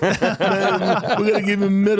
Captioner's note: laughing